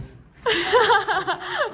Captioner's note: laughs